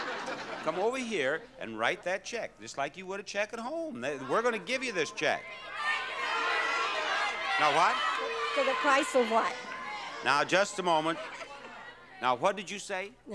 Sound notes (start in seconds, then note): 0.0 audience laughing; 5.9 audience shouting